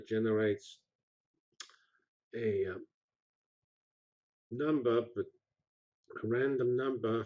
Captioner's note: pause